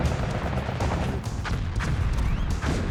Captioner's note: missiles firing